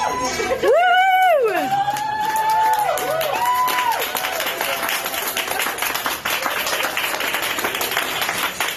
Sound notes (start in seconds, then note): 0.0 staff cheering; 2.9 staff clapping